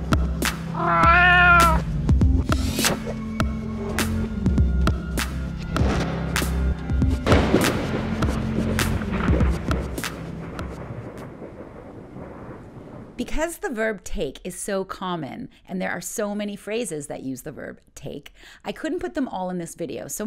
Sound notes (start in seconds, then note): 0.7 cat meow; 6.9 thunder clap